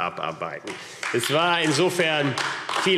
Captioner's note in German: Beifall AfD